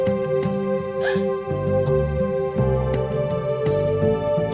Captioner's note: gasp